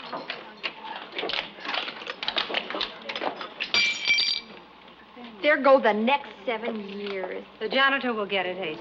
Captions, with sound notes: [ GLASS SHATTERS ] THERE GO THE NEXT SEVEN YEARS. THE JANITOR WILL GET IT, HAZEL.